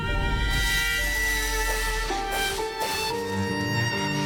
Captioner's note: metallic scraping